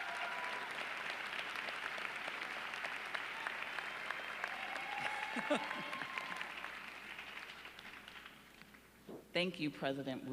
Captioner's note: applause